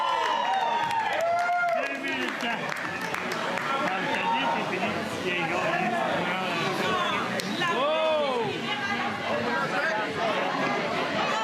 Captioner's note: crowd noise; chanting